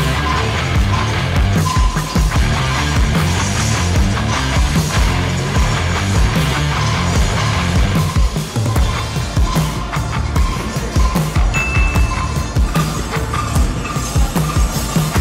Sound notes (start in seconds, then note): 0.0 upbeat music; 11.5 ding; 12.3 upbeat music